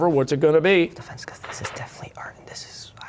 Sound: whispering

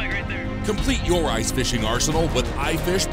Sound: voiceover

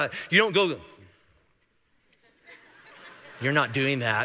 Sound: congregation laughing

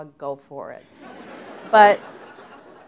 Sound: laughter

